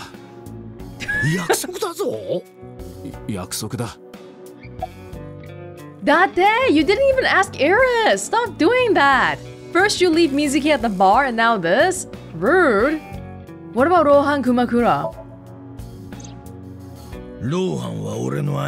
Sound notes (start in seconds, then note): 1.0 chuckles